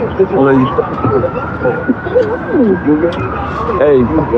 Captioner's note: kissisingng noioises